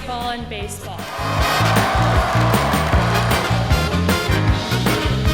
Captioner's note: cheers and applause